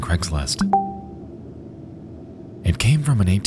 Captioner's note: beeping